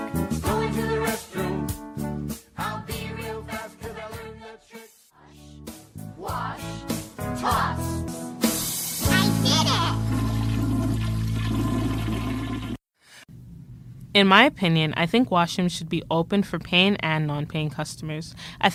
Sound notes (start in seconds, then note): 10.3 toilet flushing